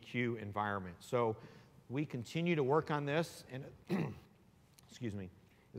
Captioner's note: clears throat